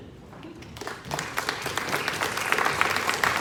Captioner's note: applause